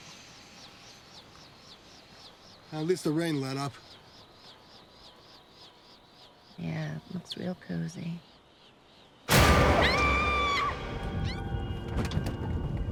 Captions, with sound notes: At least the rain let up. Yeah, it looks real cozy. [Female scream] [Thud sound]